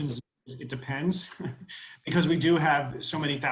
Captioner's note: laughs